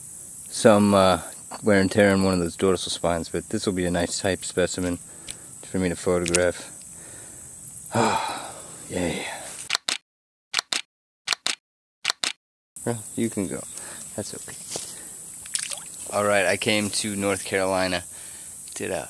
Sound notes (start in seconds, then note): 7.9 breathes in relief; 9.5 camera clicking